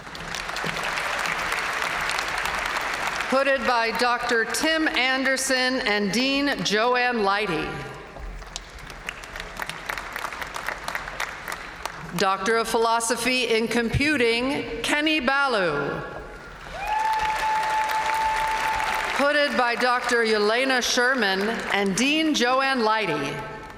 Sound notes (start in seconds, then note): 0.0 audience cheering and applauding; 8.6 audience cheering and applauding; 16.6 audience cheering